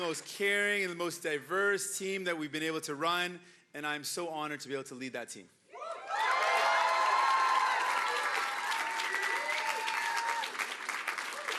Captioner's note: cheering and Applause